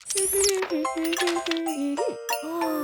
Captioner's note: humming